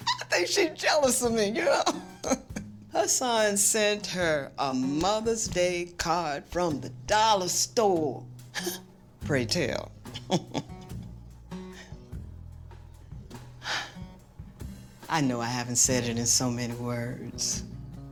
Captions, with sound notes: I think she's jealous of me, you know? Her son sent her a Mother's Day card from the dollar store. [chuckles] Pray tell. [laughing] [sighing] I know I haven't said it in so many words.